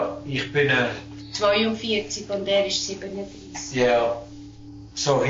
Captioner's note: speaking Swiss German